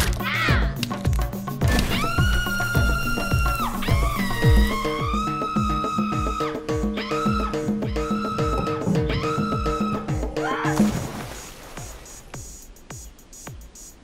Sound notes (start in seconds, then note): 0.8 bones cracking; 2.2 screaming; 11.1 water splashing